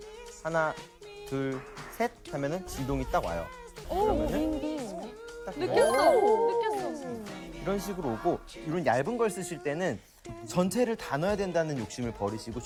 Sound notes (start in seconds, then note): 3.6 buzz